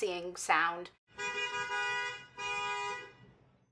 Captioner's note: car Honks